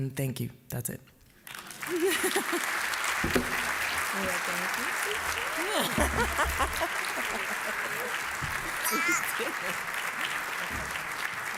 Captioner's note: applause